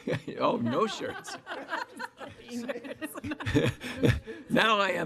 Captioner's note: group laughing